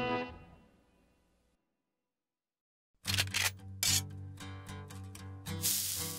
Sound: gun cocks; sizzle

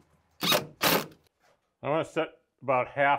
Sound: drill whirring

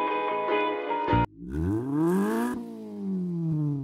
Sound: engine revs

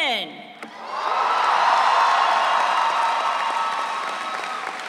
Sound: audience cheering

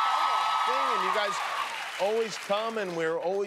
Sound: cheers and applause

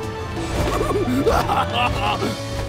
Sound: laughing

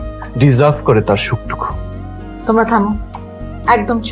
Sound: none

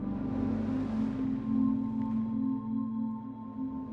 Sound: water splashing

